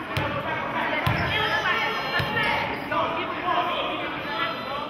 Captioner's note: yelling